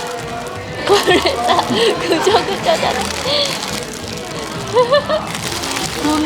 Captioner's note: laughs